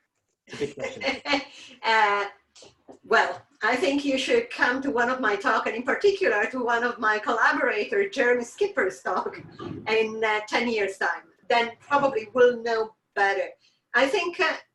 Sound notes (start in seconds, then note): 0.5 laughing